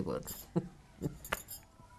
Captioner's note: laughing